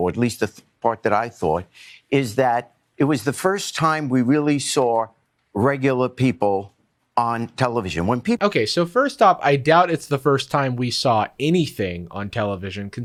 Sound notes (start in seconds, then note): none